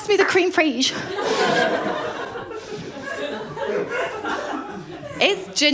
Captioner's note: laughter